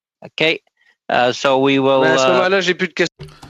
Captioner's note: speaking French